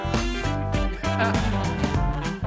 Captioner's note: laughter